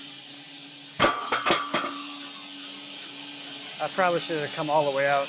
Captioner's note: metal clanging